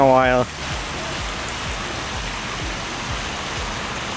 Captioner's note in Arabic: تدفق المياه